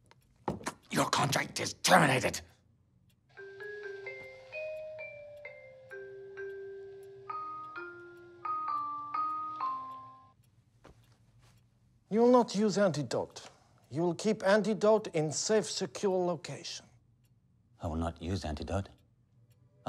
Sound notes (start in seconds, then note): 3.4 chime plays